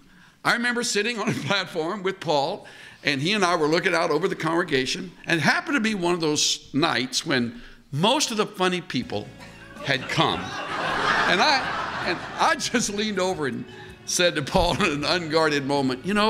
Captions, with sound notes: I remember sitting on a platform with Paul. And he and I were looking out over the congregation. And it happened to be one of those nights when most of the funny people had come. (laughter) And I . . . and I just leaned over and said to Paul in an unguarded moment, “You know,